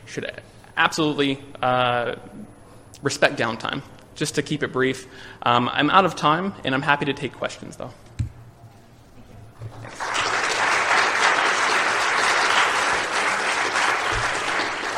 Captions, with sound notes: should absolutely respect downtime. Just to keep it brief, I'm out of time and I'm happy to take questions though. [APPLAUSE]